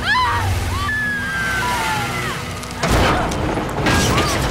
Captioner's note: All Screaming